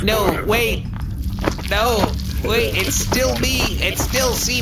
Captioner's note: high pitched voice